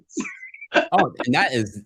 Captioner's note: laughing